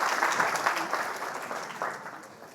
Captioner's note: audience applauding